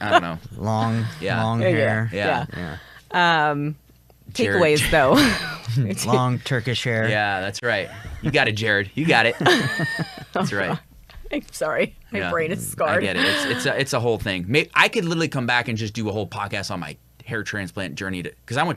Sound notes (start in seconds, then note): 4.8 chuckles; 9.0 laugh